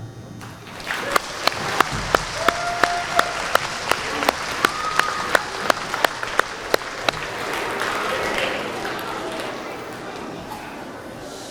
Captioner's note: applause